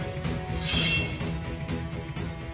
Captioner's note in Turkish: Kılıç sesi